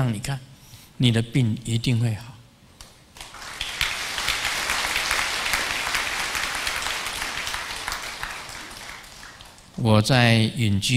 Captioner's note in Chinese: 眾鼓掌